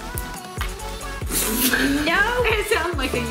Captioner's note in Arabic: يضحك